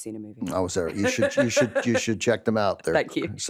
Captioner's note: laughs